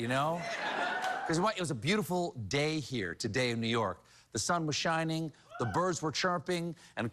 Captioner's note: cheering